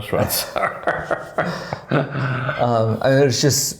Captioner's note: laughing